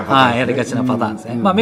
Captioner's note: laughs